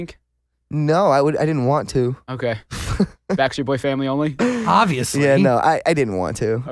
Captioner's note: laughs